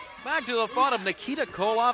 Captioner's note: crowd chatter